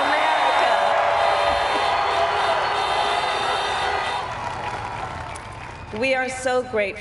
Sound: crowd applauds

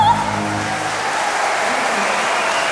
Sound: audience cheering

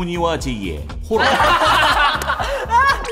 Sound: laughing loudly

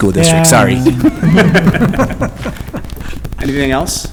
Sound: laughing

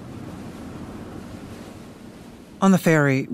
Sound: waves crashing

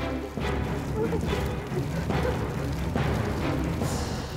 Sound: sobbing

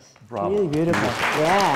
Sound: audience applauding

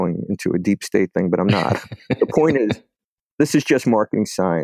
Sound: laughs

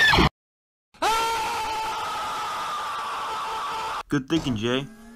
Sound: loud screaming

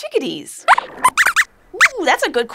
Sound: squeaks squeaks

